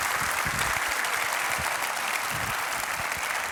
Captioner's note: applause